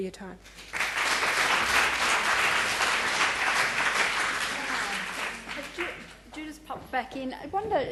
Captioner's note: applause